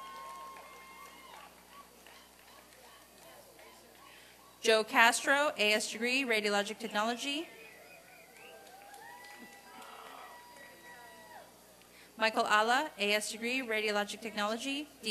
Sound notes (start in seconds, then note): 0.0 applause and cheering; 8.1 applause and cheering